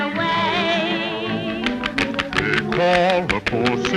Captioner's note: horse hooves clomping